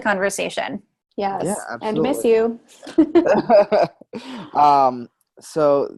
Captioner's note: laughs